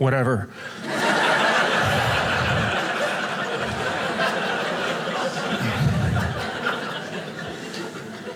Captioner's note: audience laughing